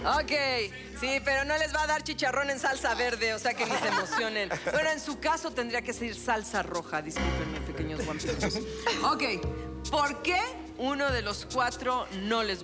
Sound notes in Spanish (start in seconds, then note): 9.2 Risas